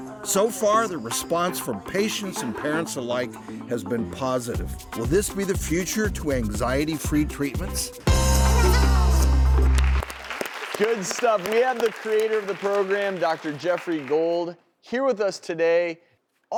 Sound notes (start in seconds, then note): 8.1 upbeat music; 9.4 applause